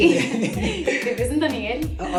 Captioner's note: laughing